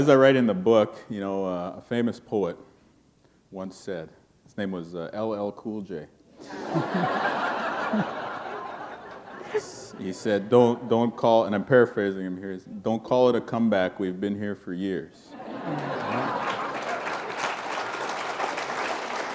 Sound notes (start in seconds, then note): 6.4 laughter; 15.3 laughter; 15.7 applause